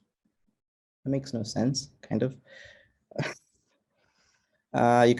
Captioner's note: chuckles